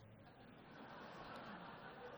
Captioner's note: laughter